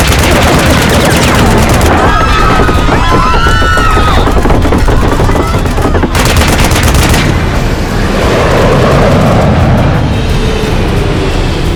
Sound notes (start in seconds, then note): 0.2 shots fired; 1.9 screaming; 5.8 shots fired